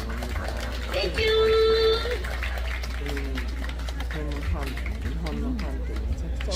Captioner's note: applause